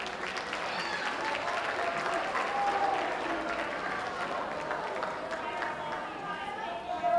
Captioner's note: audience applauding; people chattering